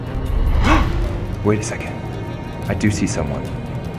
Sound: gasps

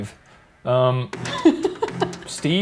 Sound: laughing

